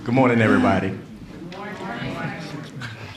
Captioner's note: laughter